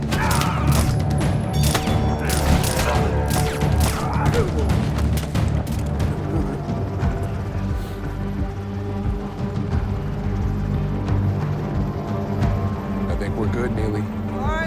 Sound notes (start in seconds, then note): 0.0 both grunting; 0.0 gun firing; 0.3 tense music; 6.2 helicopter whirring; 6.2 tense music